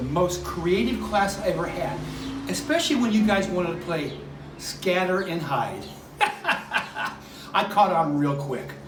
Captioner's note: laughing